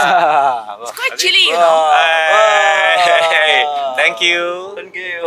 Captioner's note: laughter